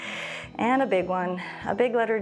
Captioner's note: inhales